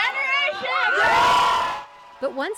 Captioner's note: cheering